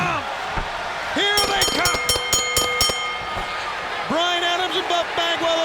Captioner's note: bell dinging